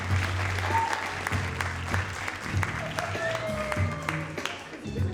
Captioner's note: audience cheering and applauding